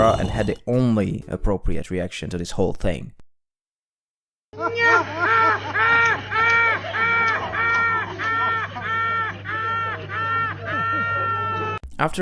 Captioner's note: starts laughing like a maniac from the insta clips